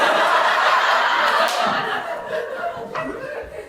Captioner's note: audience laughter